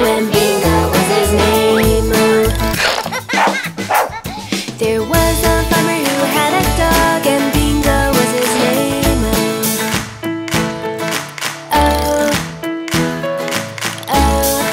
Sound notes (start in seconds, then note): 2.2 puppy giggles; 2.7 puppy barking; 11.0 Wally claps; 13.4 Wally claps